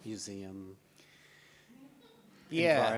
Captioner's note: audience laughs